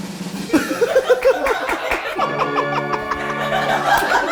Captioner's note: drum rolls; all laughing